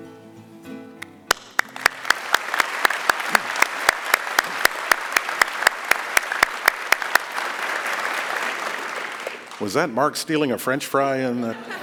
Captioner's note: applause